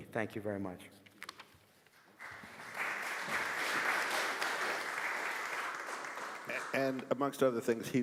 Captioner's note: applause